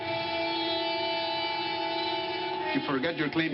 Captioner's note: man speaking spanish